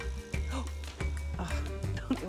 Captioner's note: gasps; groans